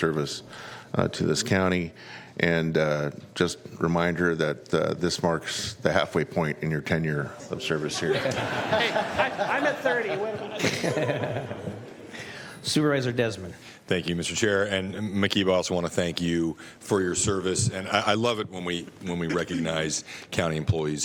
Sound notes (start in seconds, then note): 12.2 laughter